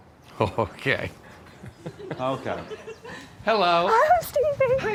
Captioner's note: chuckles